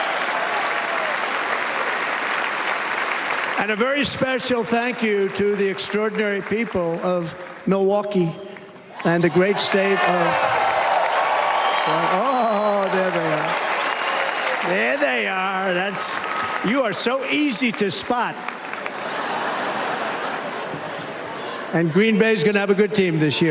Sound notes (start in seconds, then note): 9.5 cheers and applause